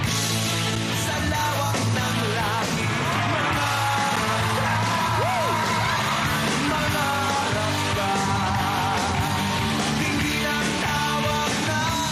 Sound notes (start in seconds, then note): 2.7 audience cheering